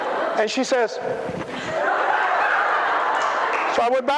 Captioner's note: laughter